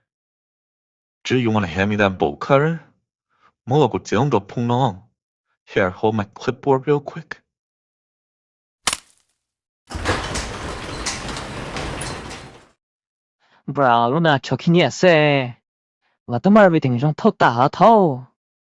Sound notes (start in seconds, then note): 8.9 snap; 9.9 door slide open